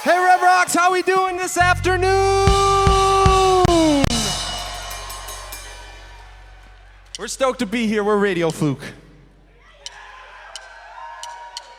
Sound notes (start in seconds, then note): 5.0 crowd Cheers